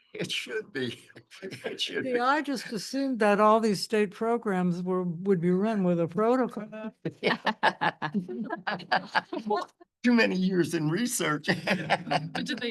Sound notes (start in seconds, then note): 7.1 chuckles; 11.4 laughs